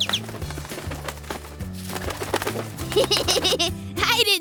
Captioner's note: flapping; tweeting; laughs